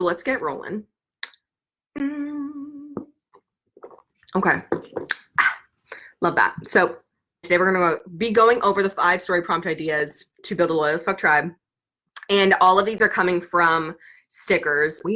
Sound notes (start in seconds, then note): 1.9 humming